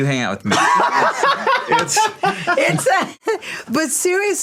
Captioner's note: laughs